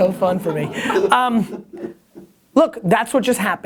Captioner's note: laughing offscreen